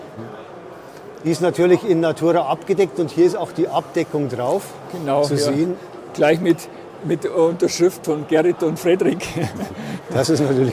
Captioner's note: laughs happily